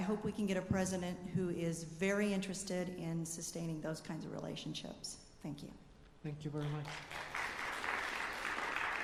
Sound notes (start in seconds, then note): 6.5 applause